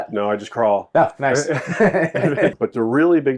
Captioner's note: laughs